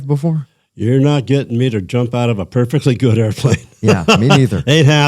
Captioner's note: laughter